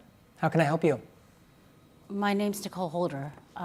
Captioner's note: none